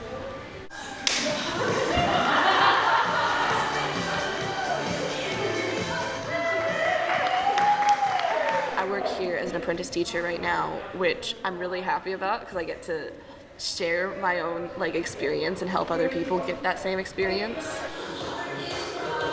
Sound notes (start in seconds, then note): 4.6 people chuckling; 7.9 people cheering